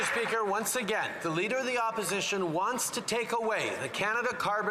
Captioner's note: some Applause